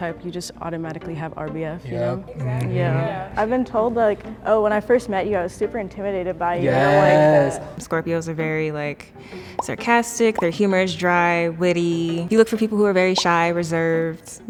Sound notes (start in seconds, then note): 2.7 group agreeing